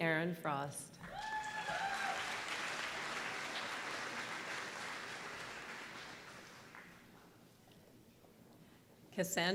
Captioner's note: applause